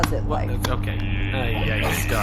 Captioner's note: makes an audible grimacing noise